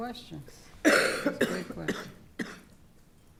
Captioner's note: coughing